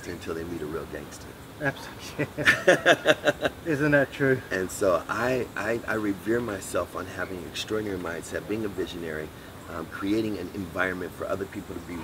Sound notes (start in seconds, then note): 1.8 laughs